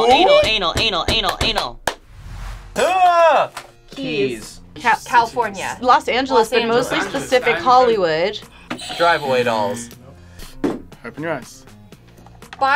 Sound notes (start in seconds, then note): 3.0 shouting